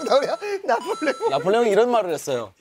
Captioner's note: laughing; laughing as well